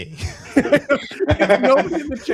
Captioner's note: laughter